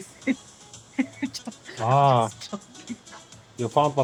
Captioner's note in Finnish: naurua